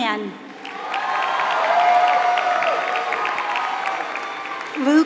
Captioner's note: applause